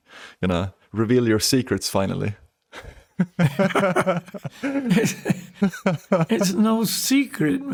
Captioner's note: laughter